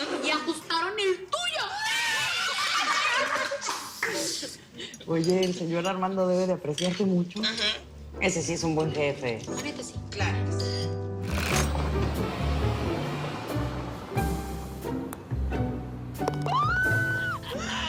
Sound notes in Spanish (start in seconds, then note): 1.4 Gritos y exclamaciones